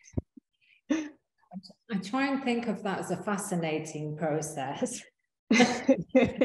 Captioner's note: both laughing